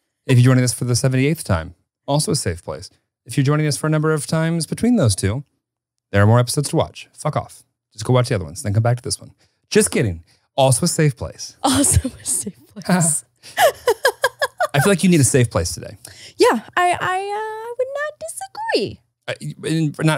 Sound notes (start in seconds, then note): 13.5 laughs